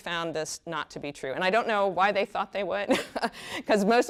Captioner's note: chuckles